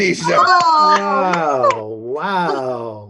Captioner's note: cheering